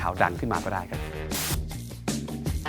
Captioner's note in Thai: เสียงโทรทัศน์